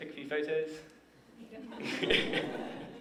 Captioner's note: laughter